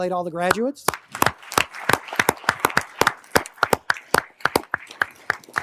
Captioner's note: everyone applauding